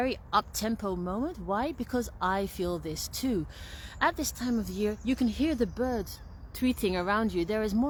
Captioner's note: bird song